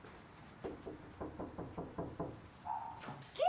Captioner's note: knocking on door